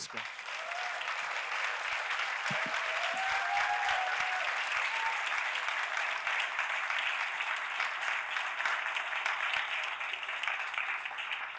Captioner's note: applause